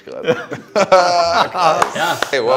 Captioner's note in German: Lachen